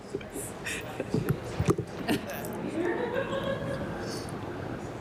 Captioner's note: laughter